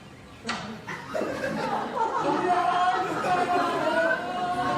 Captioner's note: laughter